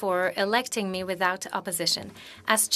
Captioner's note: speaking French